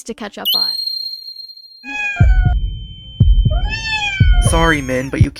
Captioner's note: yelps in fear